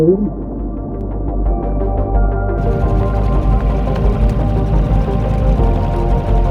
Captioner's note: boat motor hums; tense synth music continues